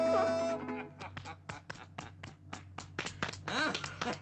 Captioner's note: Ned laughing